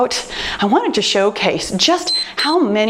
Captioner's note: timer beeps